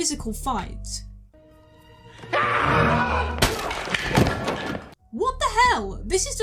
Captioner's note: battle cry; chair breaks